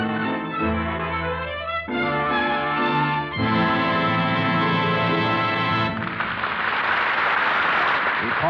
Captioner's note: applause